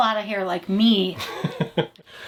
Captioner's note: chuckles